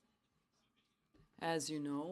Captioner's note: speaking French